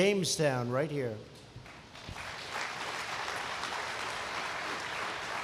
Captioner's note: applause